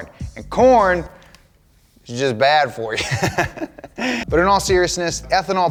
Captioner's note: laughs